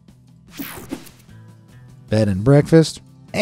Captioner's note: screen whooshing